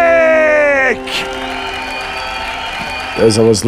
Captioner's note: cheers and applause